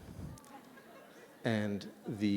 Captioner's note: laughter